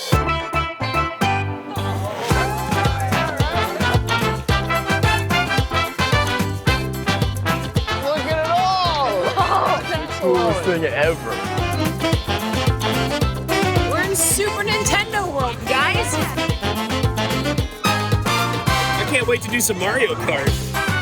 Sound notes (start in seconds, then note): 0.3 upbeat music; 1.6 family cheers; 12.3 upbeat music continues; 17.1 upbeat music continues